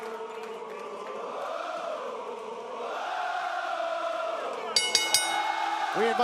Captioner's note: crowd cheering; bell ringing